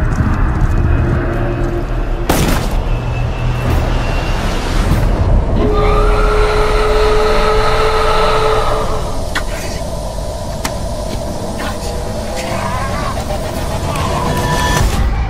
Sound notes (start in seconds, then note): 5.6 inhuman howling; 9.7 gasping for air